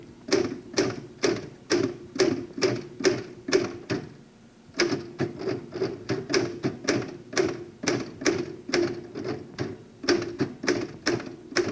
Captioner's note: typing